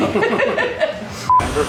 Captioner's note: beep